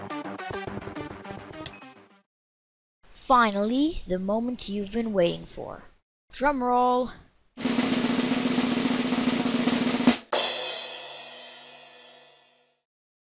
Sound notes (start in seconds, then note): 7.6 drum roll; 10.3 crash